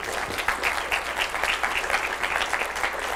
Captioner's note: applause